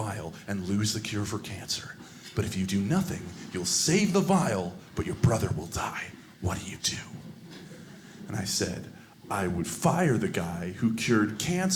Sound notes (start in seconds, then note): 7.4 audience laughing